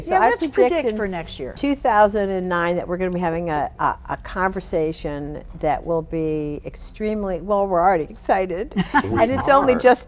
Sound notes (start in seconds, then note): 8.7 laughing